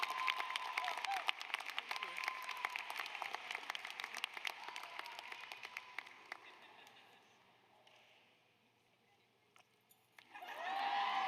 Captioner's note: applause